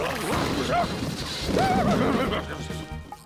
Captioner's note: clattering; whinnies